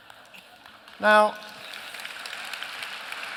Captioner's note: applause